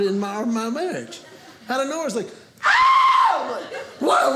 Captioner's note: shrieks